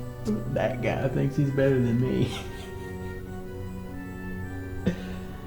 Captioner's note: chuckling